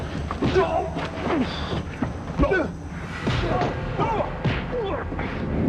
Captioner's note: gun bangs; grunts; thuds